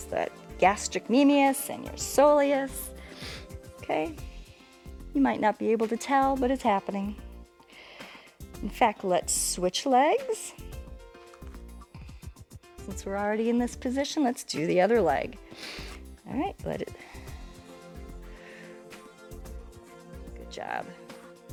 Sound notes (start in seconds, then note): 15.4 inhales